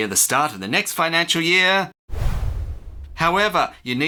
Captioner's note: whoosh